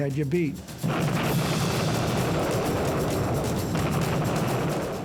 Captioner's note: explosion